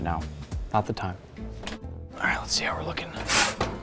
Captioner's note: whispers